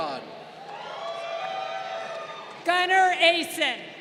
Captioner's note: crowd cheering